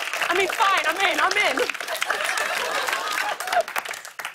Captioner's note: laughter